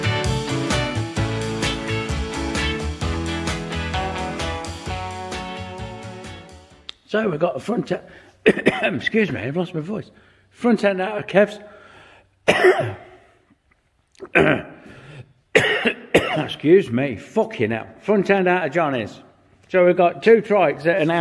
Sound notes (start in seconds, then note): 12.4 coughing